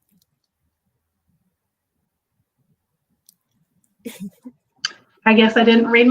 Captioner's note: muted audio